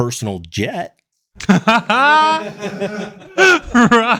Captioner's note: laughing